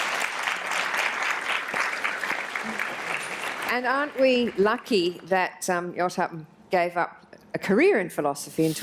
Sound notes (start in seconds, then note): 0.0 applause